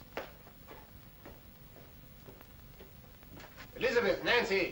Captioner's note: footsteps